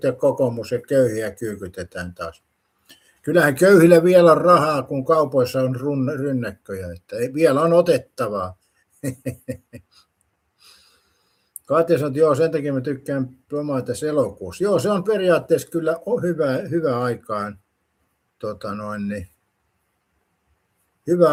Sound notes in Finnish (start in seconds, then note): 9.0 naurua